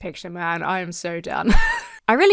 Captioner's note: wheezes